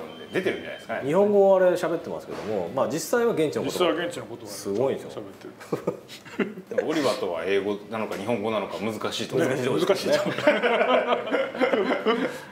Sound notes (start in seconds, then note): 5.6 laughs; 10.1 laughs